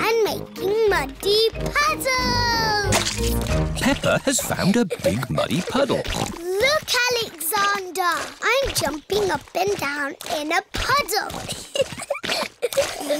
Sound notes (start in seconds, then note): 6.4 snorts; 11.6 giggling